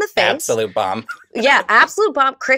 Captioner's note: laughs